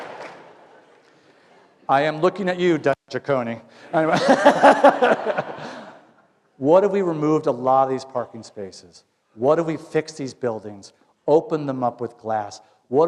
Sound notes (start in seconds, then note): 0.0 applause; 3.8 laughter